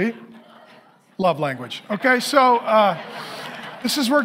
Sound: congregation laughing

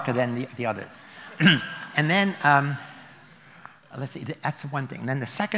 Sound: laughter

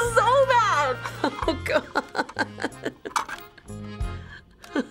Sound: whimpering

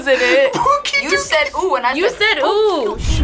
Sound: laughs

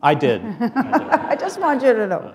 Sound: laughter

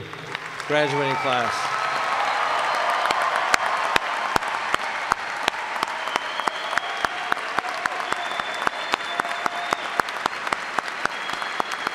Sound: applause

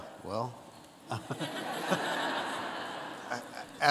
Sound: audience laughs

